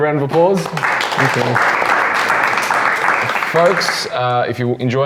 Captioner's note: claps